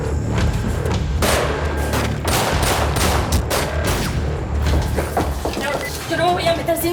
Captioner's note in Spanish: Disparos